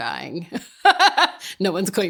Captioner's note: laughing